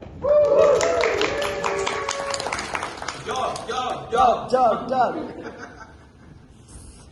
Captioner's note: applause and cheers